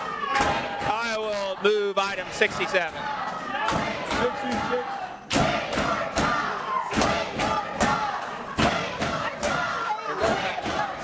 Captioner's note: audience chanting loudly